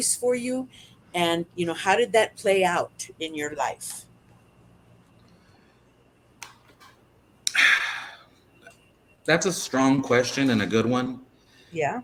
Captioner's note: sigh